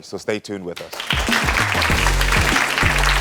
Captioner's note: audience clapping; upbeat music